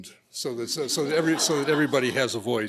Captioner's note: laughter